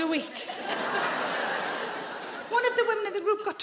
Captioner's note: audience laughs